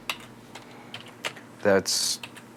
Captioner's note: typing